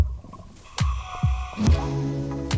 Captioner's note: inhaling; serene music